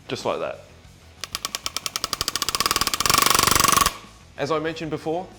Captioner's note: rivet gun grinding